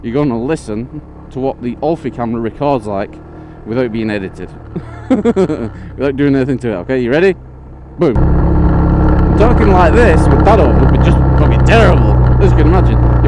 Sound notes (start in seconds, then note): 4.7 laughs; 8.1 engine noise